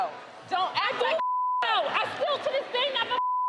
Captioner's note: beep